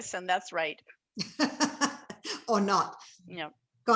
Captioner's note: laughing